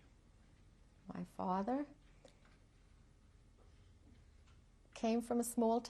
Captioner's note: pauses for 3 seconds